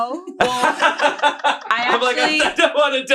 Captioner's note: laughs